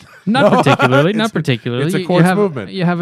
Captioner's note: laughter